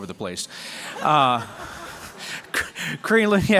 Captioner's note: laughter